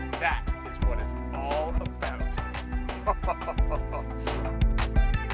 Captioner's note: laughing